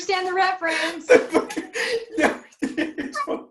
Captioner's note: HARPER and LEO laugh